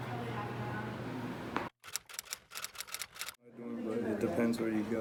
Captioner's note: typewriter clicking